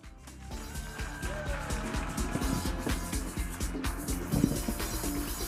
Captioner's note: audience applauding and cheering; upbeat music